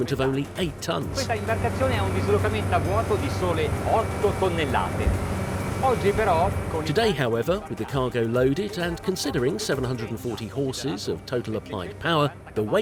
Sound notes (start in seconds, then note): 1.9 speaking in foreign language